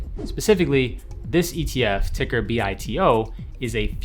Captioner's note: whooshing; whooshing